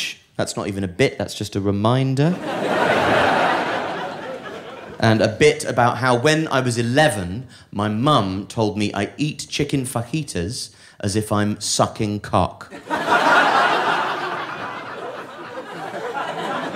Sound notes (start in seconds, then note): 12.7 audience laughing